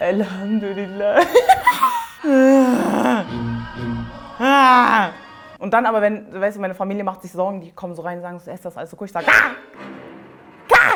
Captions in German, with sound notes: Allhamduillah. *Lacht entrückt* *Stöhnt* Und dann, meine Familie macht sich Sorgen, die kommen rein, und fragen, ob alles gut ist. - Ja.